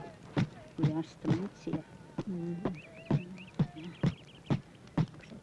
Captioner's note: speaking in foreign language